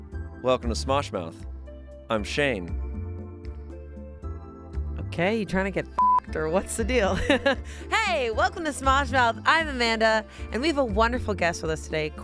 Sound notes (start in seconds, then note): 6.0 beep; 7.3 laughs